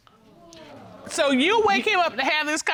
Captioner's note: audience gasping